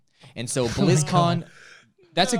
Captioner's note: host laughing